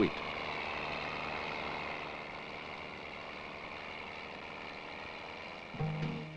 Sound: sound of machinery, fades out

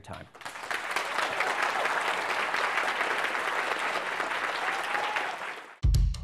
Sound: applause

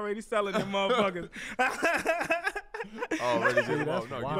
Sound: all laugh

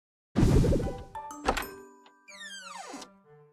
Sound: door opens

